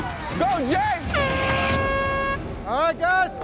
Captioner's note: horn blowing